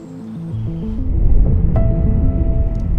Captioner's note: birds chirping; soft music continues; air whooshes; fire crackling